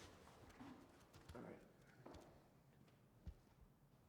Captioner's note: whispers